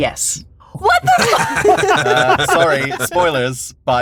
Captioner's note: laughs